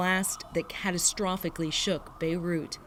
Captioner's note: sirens